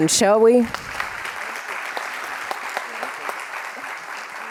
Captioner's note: audience clapping